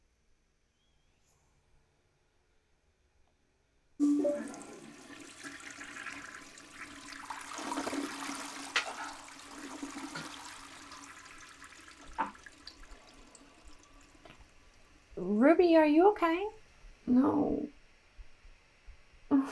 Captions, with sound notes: [Zoom log-on chime] [toilet flush] Ruby, are you ok? No.